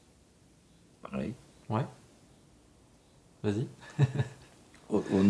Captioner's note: laughter